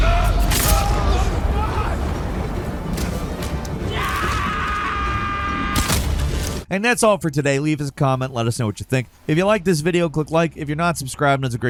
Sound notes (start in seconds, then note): 0.0 enemies screaming; 0.4 sword clanging; 3.4 enemy screaming